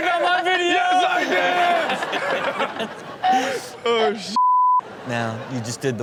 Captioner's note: beep